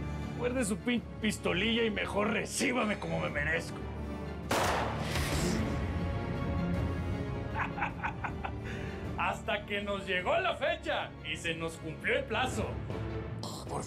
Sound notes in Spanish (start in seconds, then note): 7.5 risotada